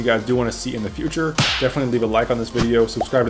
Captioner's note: hand slap